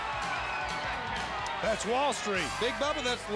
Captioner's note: crowd cheering